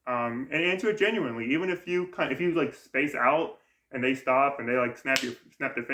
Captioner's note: snaps fingers